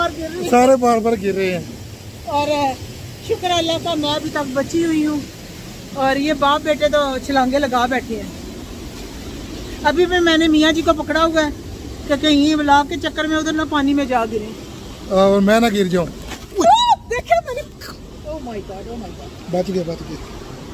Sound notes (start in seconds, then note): 16.5 scream